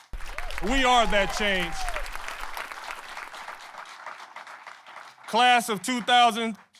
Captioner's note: applause